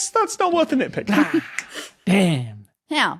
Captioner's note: snaps fingers